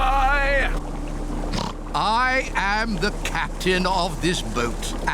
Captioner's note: oinks